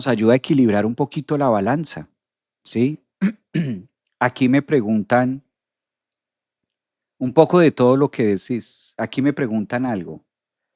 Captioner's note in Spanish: carraspeo